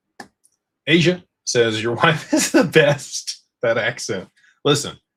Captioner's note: laughter